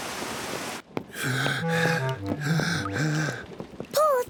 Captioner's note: breathes heavily